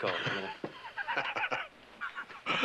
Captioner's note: laughing